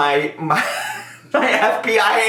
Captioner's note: laughing